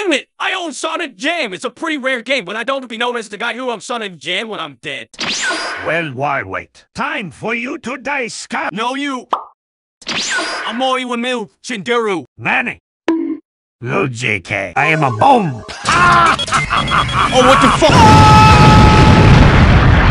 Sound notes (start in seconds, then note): 9.3 pop; 13.0 bonk